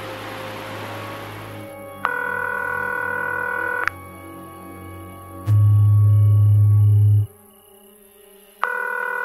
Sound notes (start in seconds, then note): 2.0 phone ringing; 5.5 phone vibrating